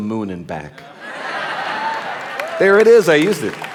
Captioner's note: audience laughing